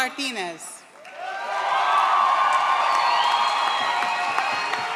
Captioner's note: audience cheers